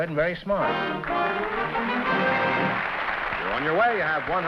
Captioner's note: applause